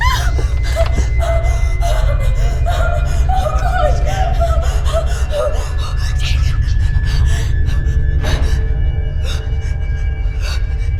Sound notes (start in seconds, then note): 2.4 screaming and sobbing; 7.4 ominous music